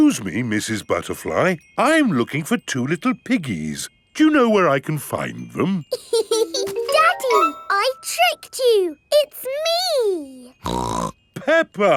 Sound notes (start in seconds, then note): 5.9 laughs; 10.6 snorts